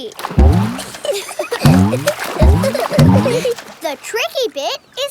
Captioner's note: giggling